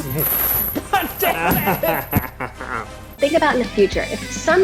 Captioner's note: laughing